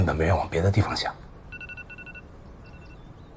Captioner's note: alarm